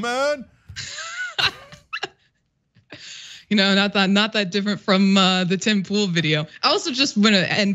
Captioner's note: laugh